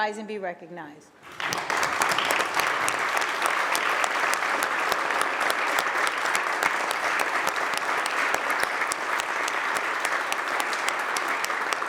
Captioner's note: applause